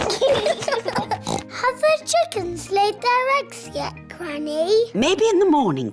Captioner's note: both giggling; oinks